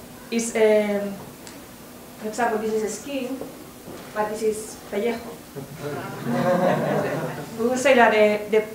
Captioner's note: spanish